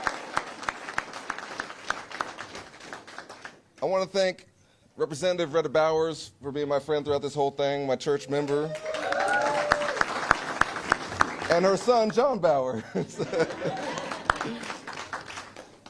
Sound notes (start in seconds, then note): 5.7 cheers; 15.0 applause